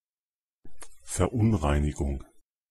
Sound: fast Pronunciation

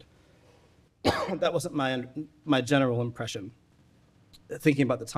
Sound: coughing

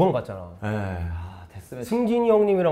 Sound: sigh

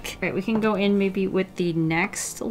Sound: none

